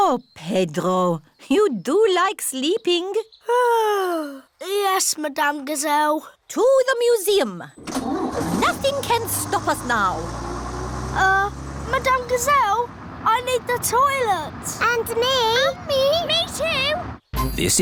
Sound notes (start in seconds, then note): 3.6 yawns